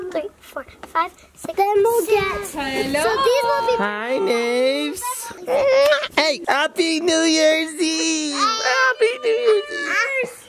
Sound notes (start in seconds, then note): 5.8 kissing smack